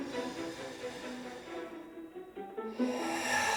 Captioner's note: sighs